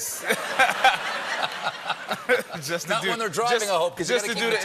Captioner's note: laughter